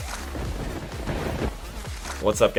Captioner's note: thunder rumbling